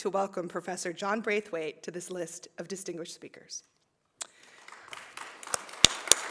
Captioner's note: applause